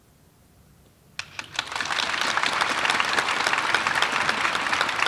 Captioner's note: audience applauding